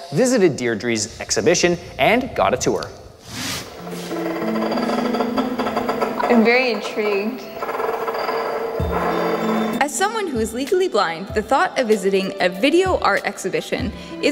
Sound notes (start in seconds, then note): 3.4 whooshes; 3.6 mysterious music; 4.2 clicking